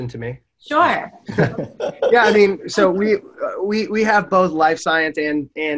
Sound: everyone chuckles

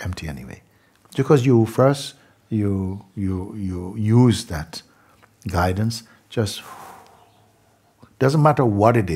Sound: long exhale

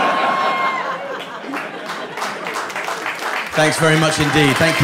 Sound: audience laughing; applause

